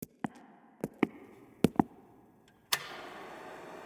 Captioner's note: footsteps echo; projector whirs